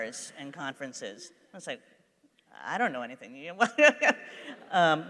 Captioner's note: laughs